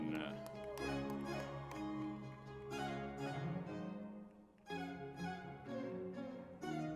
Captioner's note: lively music; crowd cheering